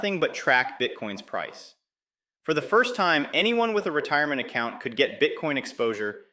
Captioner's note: excited